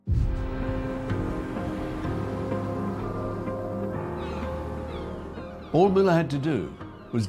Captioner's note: dramatic music; birds cawing